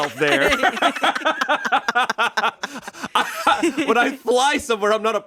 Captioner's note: everyone laughs